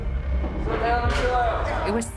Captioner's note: yelling